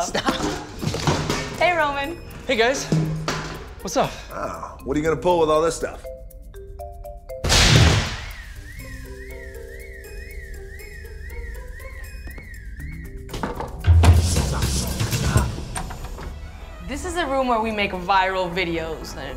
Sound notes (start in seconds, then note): 7.4 explosion; 8.1 siren